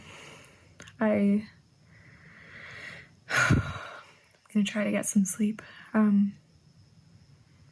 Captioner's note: sighs